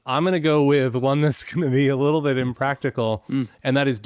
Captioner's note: chuckling